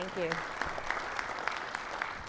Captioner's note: audience clapping